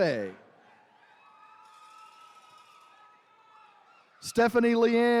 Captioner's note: attendees cheering